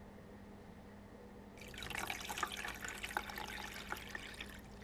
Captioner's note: pouring liquid